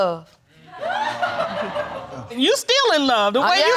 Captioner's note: crowd laughing